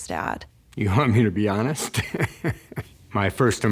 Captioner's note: laughs